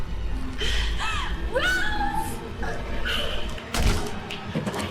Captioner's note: gasps; pistol fires